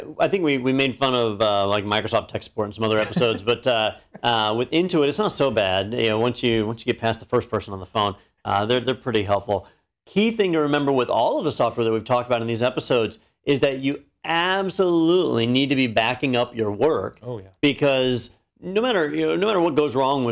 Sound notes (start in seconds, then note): 2.9 laugh